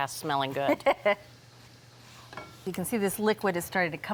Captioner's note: laughs